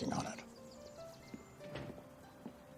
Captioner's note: door opens